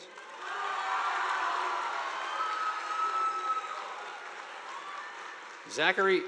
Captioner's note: audience applauding; students cheering